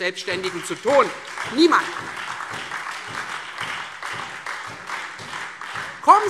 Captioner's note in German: Beifall Freie Demokraten und SPD